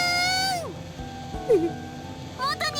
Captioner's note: mortified whimper